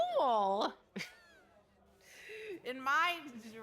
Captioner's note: laughs